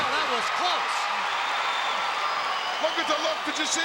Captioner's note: crowd cheering